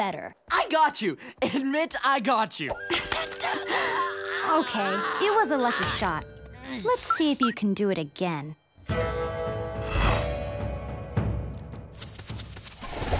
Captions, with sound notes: I got you. Admit I got you. [laughing] [groaning] Okay, it was a lucky shot. Let's see if you can do it again.